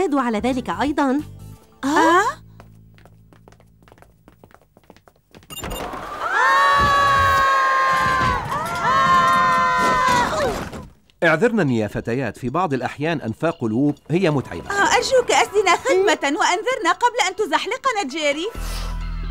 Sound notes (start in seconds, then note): 5.7 wind blowing; 5.9 screaming